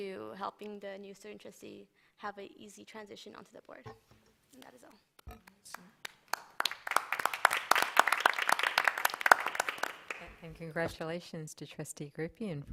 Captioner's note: applause